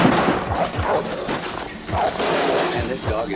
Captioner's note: barking continues